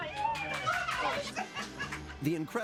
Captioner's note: trio celebrating